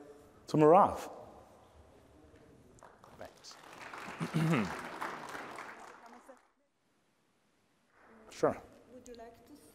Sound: applause

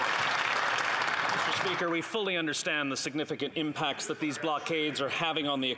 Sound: applause

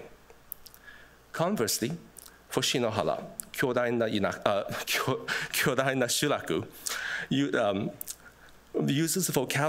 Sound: speaking japanese

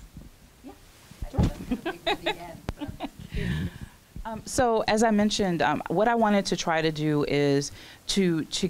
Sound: chuckles

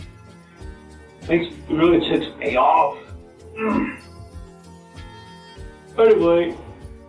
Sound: grunt

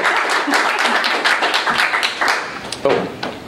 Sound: applause

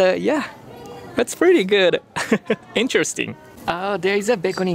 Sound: chuckles

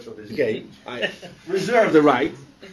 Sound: laughter

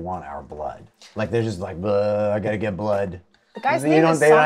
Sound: bleurgh

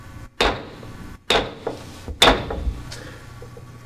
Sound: gavel pounds

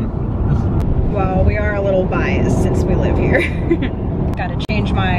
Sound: laughs

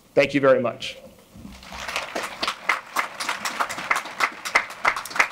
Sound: audience applauding

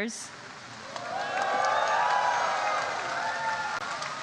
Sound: crowd cheers

